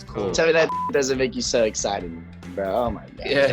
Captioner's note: beep